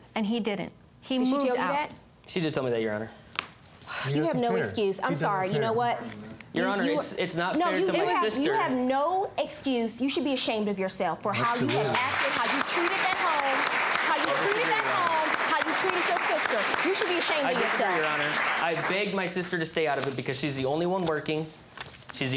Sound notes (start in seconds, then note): 3.9 sighs; 11.6 applauding